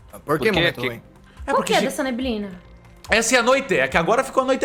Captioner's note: none